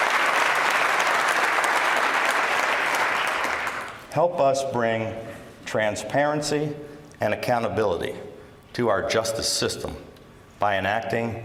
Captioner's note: applause